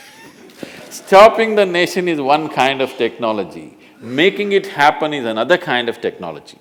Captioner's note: laughs